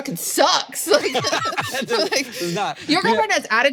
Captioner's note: both laugh